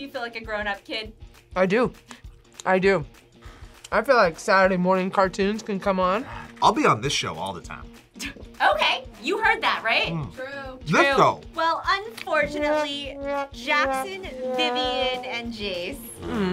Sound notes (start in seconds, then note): 8.6 laughs